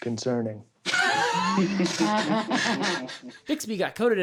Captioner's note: laughter